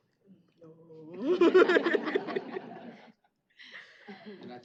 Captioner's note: laughter